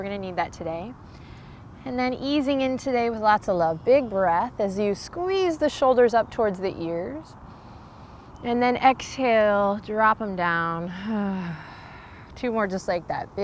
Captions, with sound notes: we're gonna need that today. And then easing in today with lots of love. Big breath as you squeeze the shoulders up towards the ears, (takes deep breath) and then exhale, drop 'em down. (sighs) Two more just like that.